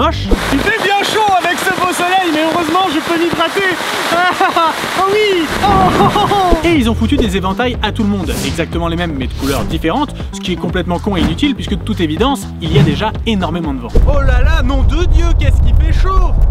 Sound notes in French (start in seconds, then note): 0.3 Bruit de pluie; 5.5 Tonnerre; 13.9 Bruit de vent qui sature